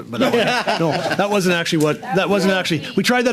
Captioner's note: laughter